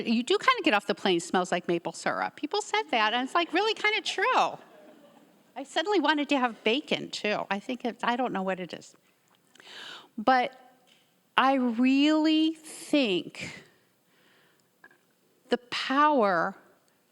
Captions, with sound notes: You do kind of get off the plane, smells like maple syrup. People said that, and it's like really kind of true. (audience members laughing) I suddenly wanted to have bacon too. I don't know what it is. But I really think the power of knowledge,